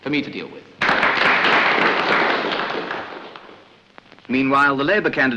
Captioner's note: applause